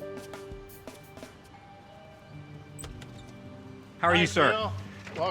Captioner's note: doorbell